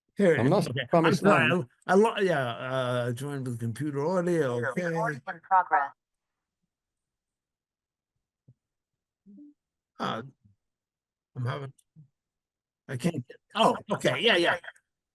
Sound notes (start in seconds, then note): 4.9 computer Voice